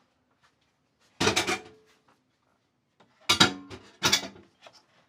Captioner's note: dishes clang in sink